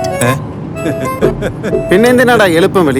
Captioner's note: laughing